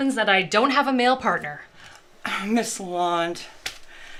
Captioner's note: sighs